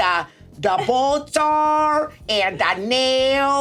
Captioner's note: Sarah chuckles